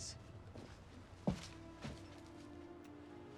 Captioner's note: footstep